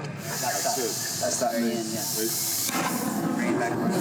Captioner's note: hissing